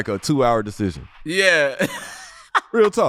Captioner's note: laughing